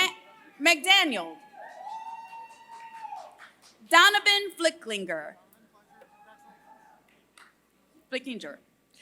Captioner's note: applause